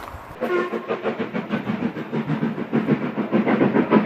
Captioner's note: train hoot and sound of steam engine chugging